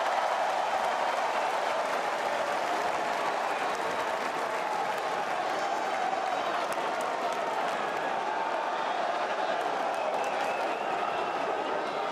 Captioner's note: crowd chatter